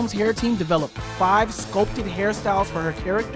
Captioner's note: none